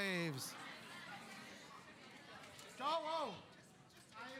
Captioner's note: chattering